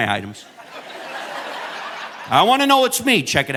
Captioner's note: audience laughing